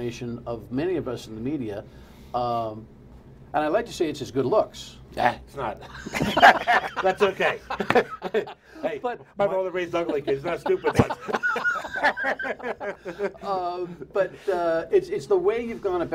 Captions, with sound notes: IT CALLED THE TALK RADIO SHOWS AND CAPTURE THE IMAGINATION OF MANY OF US IN THE MEDIA. I WOULD LIKE TO SAY IT IS HIS GOOD LOOKS. [LAUGHTER]